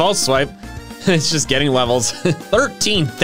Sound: laughs

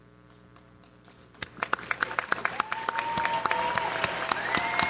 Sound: audience applauds

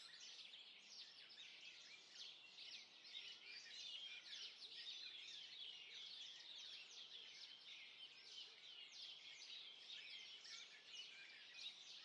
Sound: birdsong

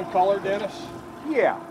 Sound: winch motor running

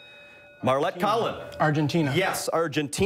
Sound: bell rings

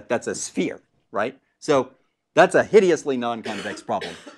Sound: cough

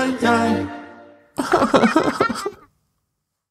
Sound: sob

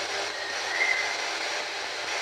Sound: birds chirping

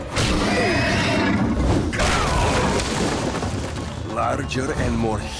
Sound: growling

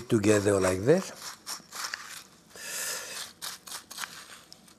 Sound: crunching

